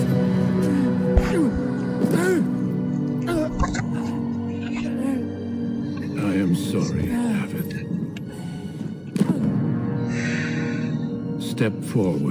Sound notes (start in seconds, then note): 10.0 exhale